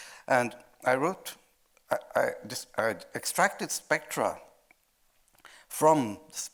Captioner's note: stammering